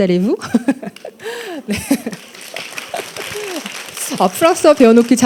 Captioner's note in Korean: 관객 : 박수